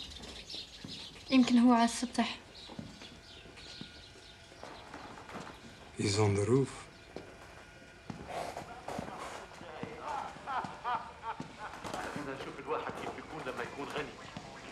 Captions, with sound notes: (WOMAN SPEAKS ARABIC) He's on the roof. (TV PLAYS IN BACKGROUND)